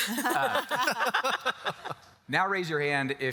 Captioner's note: all laugh